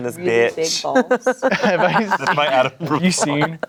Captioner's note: everyone laughs